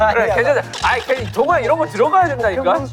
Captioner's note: arguing